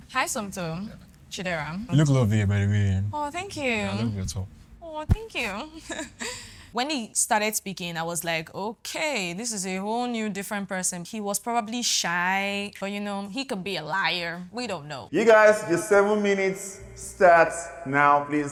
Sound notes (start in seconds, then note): 6.0 laughs